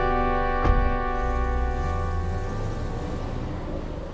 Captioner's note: engine rumbling